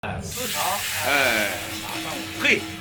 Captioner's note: sizzling sound